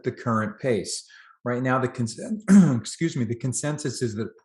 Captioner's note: clears throat